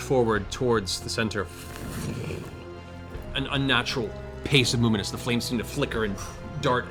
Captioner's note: flame sounds